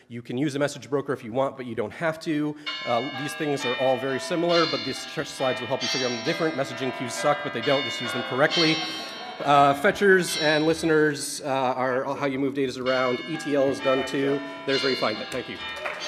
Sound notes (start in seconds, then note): 2.9 bell chiming; 8.6 audience laughing; 15.3 audience clapping